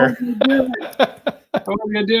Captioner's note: laughs